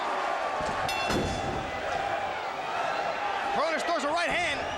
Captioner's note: bell rings